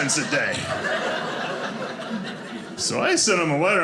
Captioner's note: audience laughing